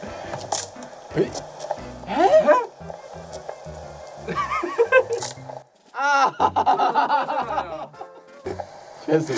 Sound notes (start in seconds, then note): 4.4 laugher